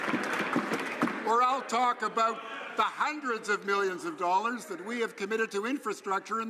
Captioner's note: some Applause